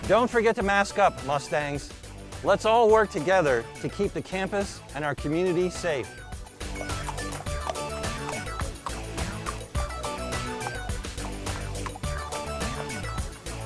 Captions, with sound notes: Don't forget to mask up Mustangs. Let's all work together to keep the campus and our community safe. (upbeat music) (horse trotting)